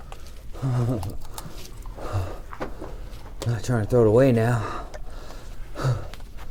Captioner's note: panting